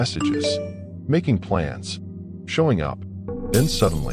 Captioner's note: notification sound